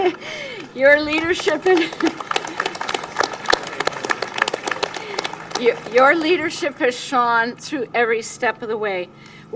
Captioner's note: applause; laughs